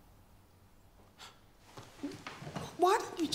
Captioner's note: exhales